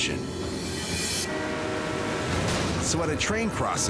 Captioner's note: train horn blaring